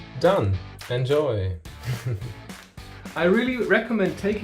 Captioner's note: laughs